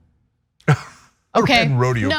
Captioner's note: laugh